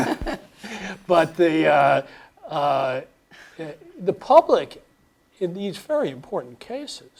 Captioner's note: laugh